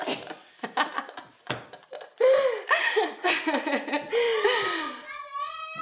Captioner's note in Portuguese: risos